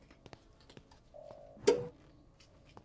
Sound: click

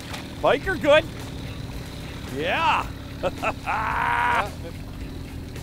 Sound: laughs

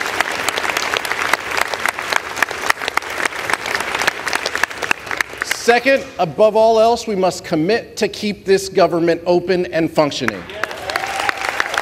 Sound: applause

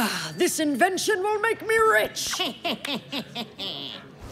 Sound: snickering

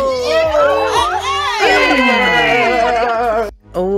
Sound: cheering

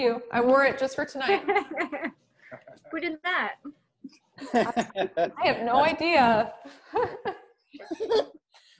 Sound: laughter

